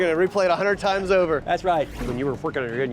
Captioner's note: whooshing